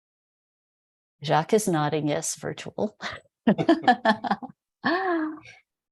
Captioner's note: laughs